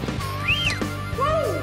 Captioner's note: whistling